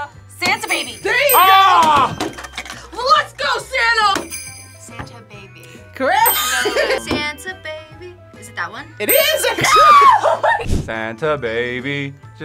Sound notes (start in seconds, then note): 0.4 bells jingling; 9.3 screams